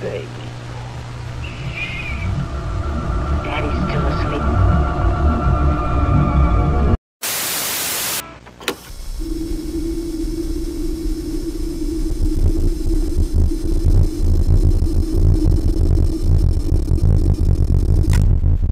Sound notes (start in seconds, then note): 5.2 eerie music; 7.7 TV static buzzes; 9.5 eerie music